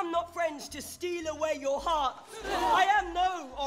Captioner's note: people gasping